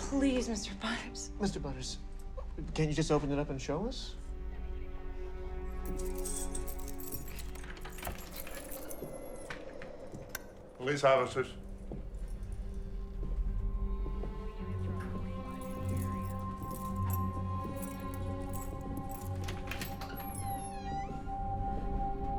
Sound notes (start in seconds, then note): 5.8 keys jangling; 6.2 suspenseful music; 8.3 door latch clicks; 10.3 light switch clicks; 13.0 suspenseful music; 15.0 keys jangling; 19.2 door latch clicks; 22.1 suspenseful music